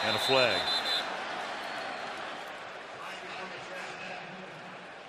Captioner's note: whistle